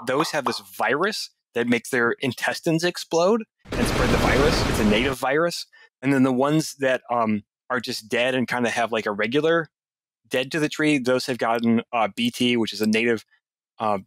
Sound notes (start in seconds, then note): 3.6 ka-booom!